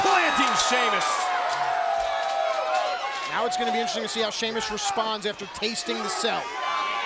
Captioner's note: applause